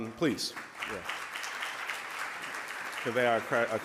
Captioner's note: audience applause